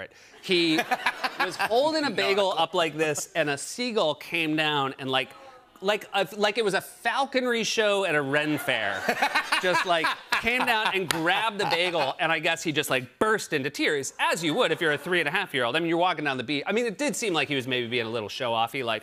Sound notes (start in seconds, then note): 0.6 laughter; 8.5 laughter